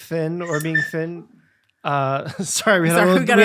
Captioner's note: squeak sounds